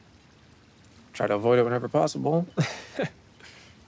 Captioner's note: chuckles